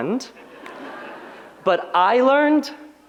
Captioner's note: audience laughs